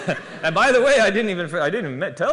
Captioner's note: laughter